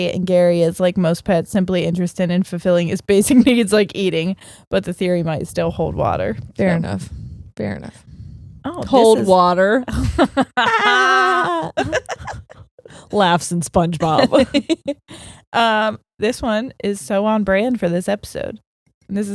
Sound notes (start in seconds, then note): 9.9 evil laugh